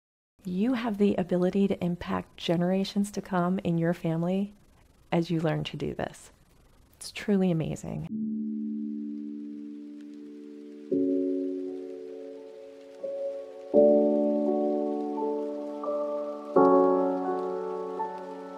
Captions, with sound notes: You have the ability to impact generations to come in your family as you learn to do this. It's truly amazing. (gentle music) (rainfall pattering)